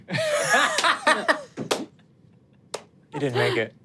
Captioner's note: laughs